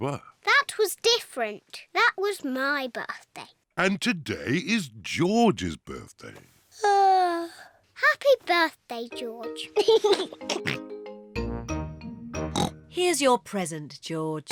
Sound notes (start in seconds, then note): 6.5 yawns; 9.7 laughs and oinks; 12.5 oinks